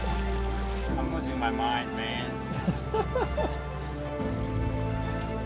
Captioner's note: laughter